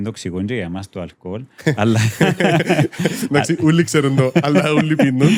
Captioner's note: laughter